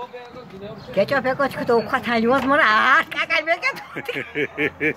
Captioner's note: laughter